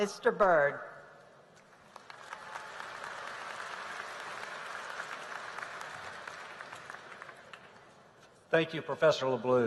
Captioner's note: applause